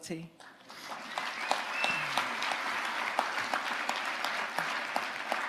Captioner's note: audience applauding